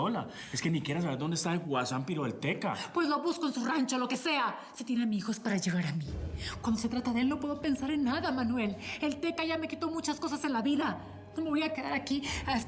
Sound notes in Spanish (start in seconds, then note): none